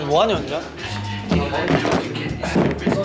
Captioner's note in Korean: 카메라 덜컥